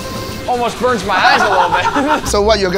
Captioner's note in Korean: 웃음